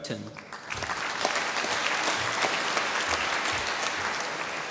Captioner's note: applause